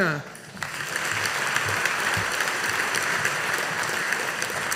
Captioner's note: audience applauding